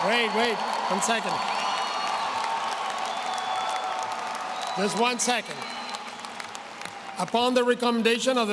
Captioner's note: applause